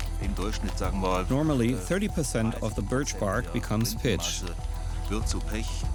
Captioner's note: speaking in German; voice-over